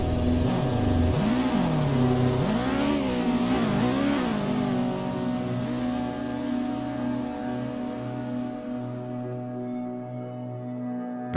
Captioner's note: car Revving